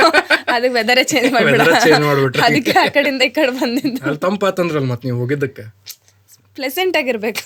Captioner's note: laughs